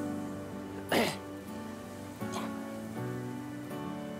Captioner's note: clears throat